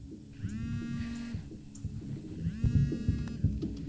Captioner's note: phone buzzing